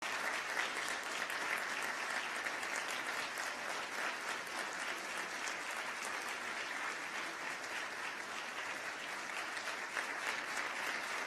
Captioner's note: applause